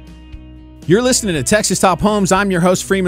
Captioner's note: voiceover